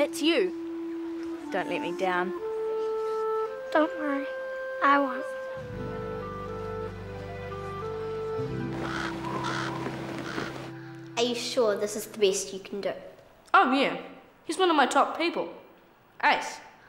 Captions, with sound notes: That's you. Don't let me down. - Don't worry. I won't. (gentle orchestra music) (crow cawing) - Are you sure this is the best you can do? - Aren't you? He's one of my top people. Ace.